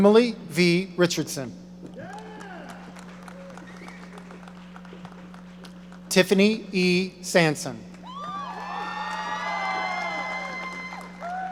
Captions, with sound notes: Emily V. Richardson. (audience applauding) Tiffany E. Sansone. (audience cheering)